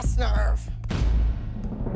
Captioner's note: boom